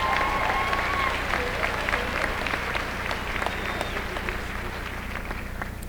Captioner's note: applause